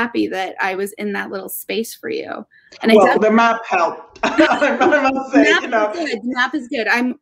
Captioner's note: laughing